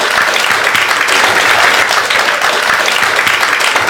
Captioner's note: clapping